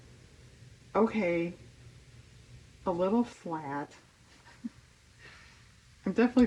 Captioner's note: laughs